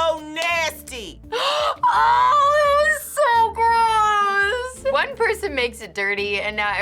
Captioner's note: gasps